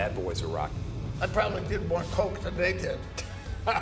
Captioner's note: plane roars